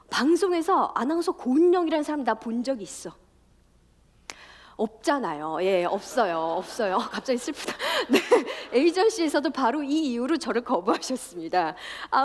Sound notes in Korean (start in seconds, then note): 5.9 웃음